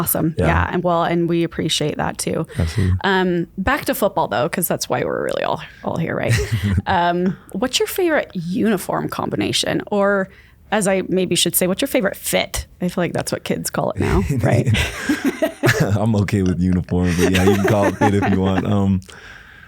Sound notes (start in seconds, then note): 6.2 laughs; 14.0 laugh